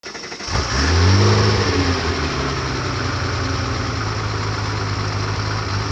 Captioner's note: engine starts